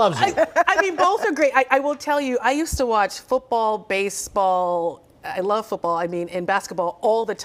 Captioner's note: laughter